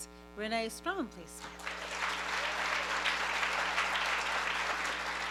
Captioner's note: applause